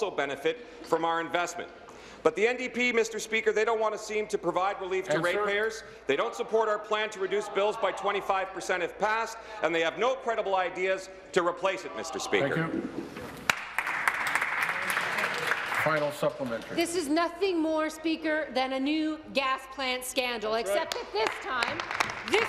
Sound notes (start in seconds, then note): 16.7 applause